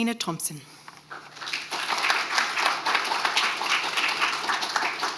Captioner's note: audience applauding